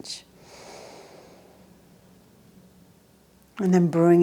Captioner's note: inhales deeply